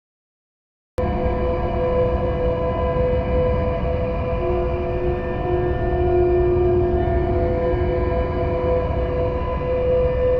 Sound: sound of horror

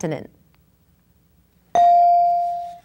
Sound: ding

